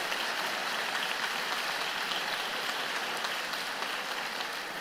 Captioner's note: applause